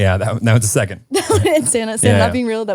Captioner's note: laughing